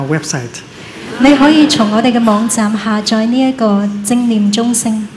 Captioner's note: laughter